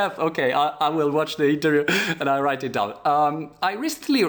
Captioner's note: laughter